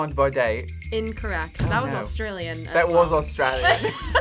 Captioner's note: accented; accented; both laugh